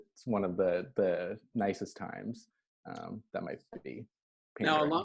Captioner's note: murmurs